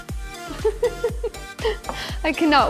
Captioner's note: laughing